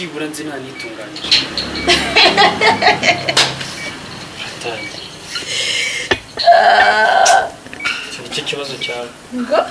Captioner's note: girl laughing